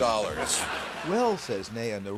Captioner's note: laughter